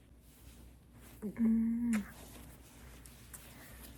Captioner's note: kiss